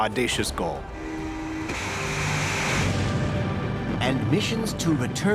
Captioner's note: whirring, igniting